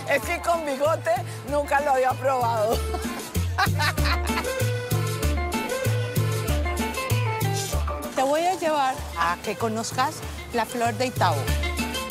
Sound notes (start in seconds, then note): 2.7 laughs